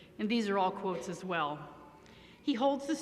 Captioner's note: none